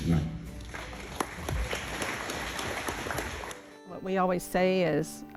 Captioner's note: audience clapping